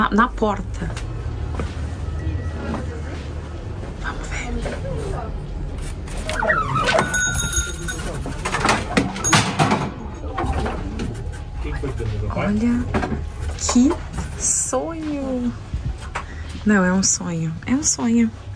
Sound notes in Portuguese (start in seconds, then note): 0.0 sussurrando; 3.8 sussurrando; 8.3 porta abrindo